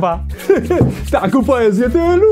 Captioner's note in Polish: Śmiech Szwagra